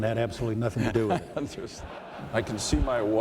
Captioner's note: laughter